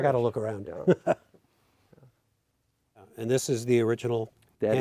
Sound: chuckles

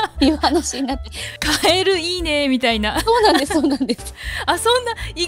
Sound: laughs; laughs

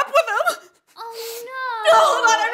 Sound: sobbing

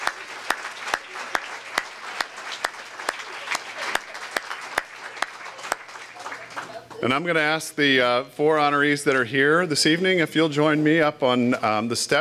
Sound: applause

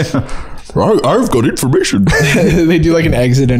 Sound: in Scooby Doo voice

